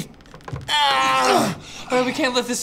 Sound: groans

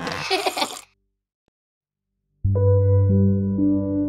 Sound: child giggles; soft piano music

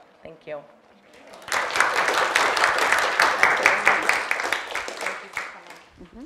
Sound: applause

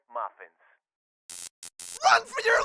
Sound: electrical buzz

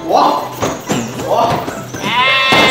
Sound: confident

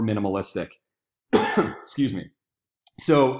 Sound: coughing

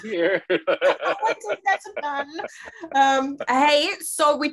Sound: laughing

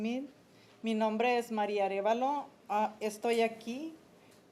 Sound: speaking Spanish

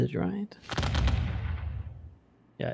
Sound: volley of booming sounds

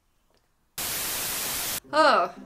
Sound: static

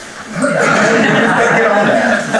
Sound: audience laughter

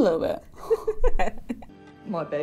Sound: laughs

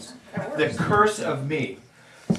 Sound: audience laughing

